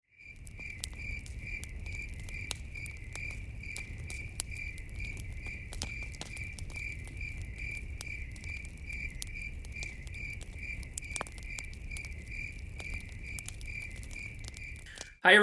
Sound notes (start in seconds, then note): 0.0 crickets chirping...campfire crackling